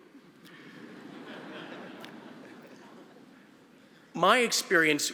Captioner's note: audience laughing